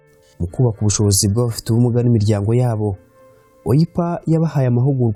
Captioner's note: speaking in Kinyarwanda